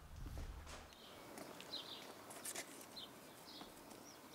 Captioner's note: birds chirping